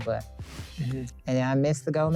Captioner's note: air whooshing